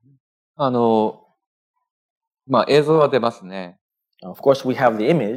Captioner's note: speaking japanese